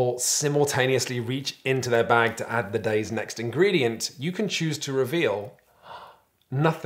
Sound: gasp

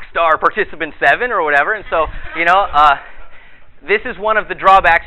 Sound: audience laughter

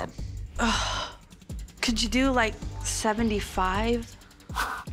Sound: sighs

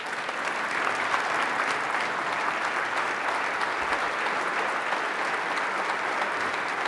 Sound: applause

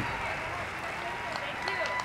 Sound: crowd clapping; band music

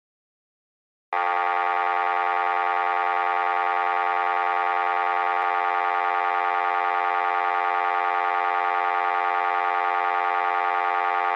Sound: sound of dial tone

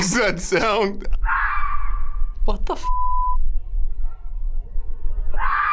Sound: animal screeches; animal screeches

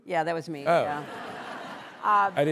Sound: laughter

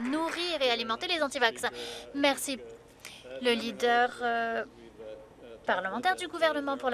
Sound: applause

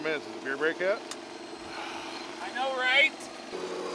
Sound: sighs

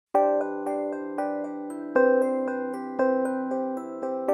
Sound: gentle chumming bells

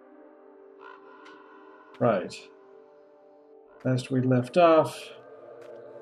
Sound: birds cawing throughout

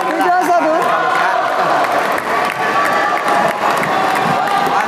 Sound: applause

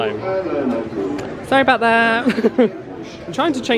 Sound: laughs

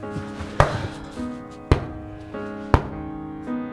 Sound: weakening knocks at the door

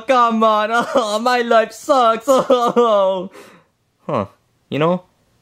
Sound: sobbing

